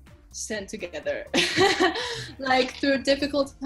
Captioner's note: laughs